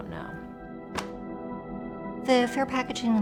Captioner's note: papers slap table